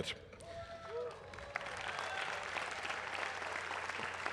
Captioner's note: applause